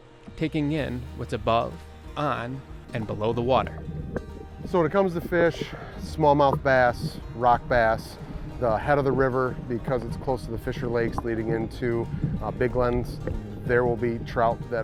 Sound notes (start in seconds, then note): 3.8 water gurgling